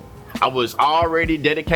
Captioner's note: birds Chirping